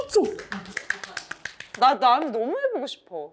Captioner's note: seal clap